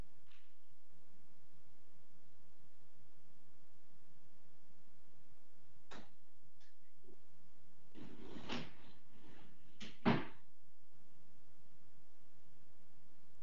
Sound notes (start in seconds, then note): 6.1 thudding; 7.9 scraping; 9.8 thudding